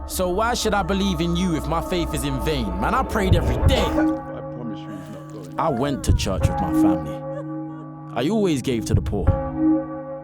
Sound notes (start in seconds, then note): 3.6 coughing restarts